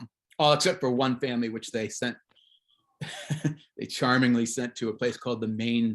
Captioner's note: chuckles